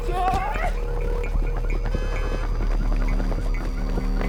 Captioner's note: rapid footsteps